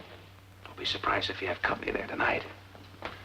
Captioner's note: whispering